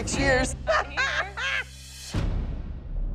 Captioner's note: laughs